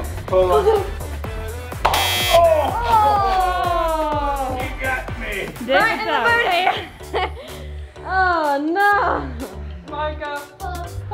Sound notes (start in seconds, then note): 1.8 buzzer buzzes